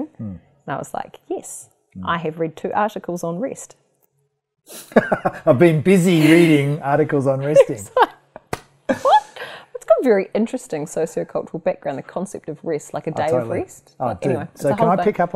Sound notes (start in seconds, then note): 4.0 laughs; 7.4 laughs